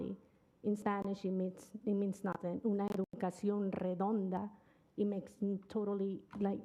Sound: speaking Spanish

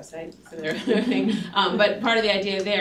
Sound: laughter

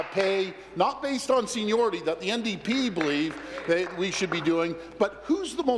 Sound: applause

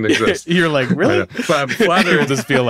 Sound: laughs

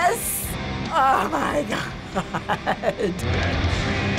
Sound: chuckling in amazement

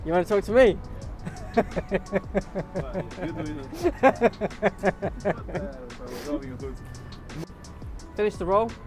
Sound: laughs

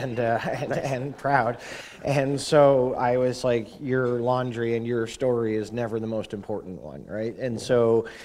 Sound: chuckle

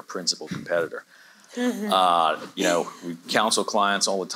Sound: chuckles

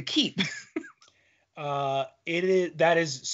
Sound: laughing

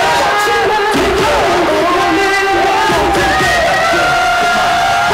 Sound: bam bam bam

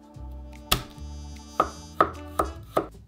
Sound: knife smashing

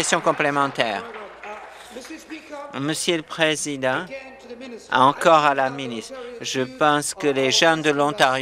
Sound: applause

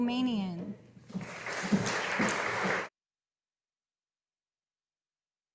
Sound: audience applauding

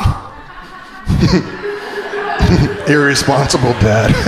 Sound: laughing

